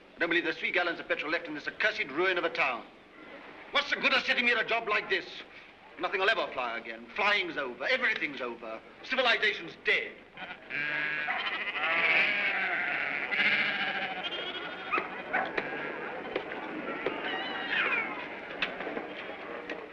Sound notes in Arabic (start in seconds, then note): 15.2 نباح الكلب; 17.2 طفل يبكي